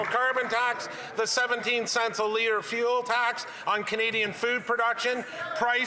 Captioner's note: applause